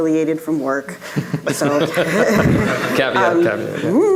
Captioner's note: audience laughing